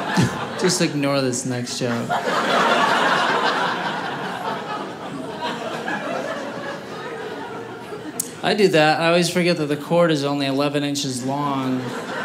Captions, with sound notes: Just ignore this next joke. (audience laughing) I do that, I always forget that the chord is only 11 inches long,